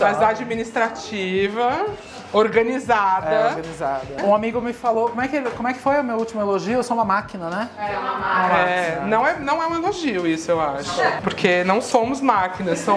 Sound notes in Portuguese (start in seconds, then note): 7.8 vozes ao fundo